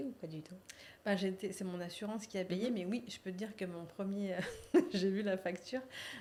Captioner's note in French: rires